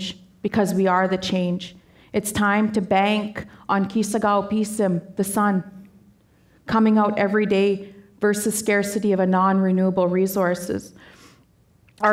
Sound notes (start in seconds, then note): 3.8 speaking Danezaa